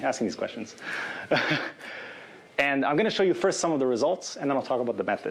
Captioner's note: chuckles